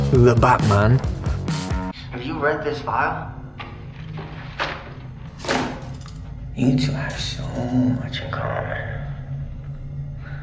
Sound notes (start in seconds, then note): 3.6 papers rustling; 5.4 file slamming